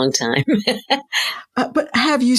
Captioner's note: laughing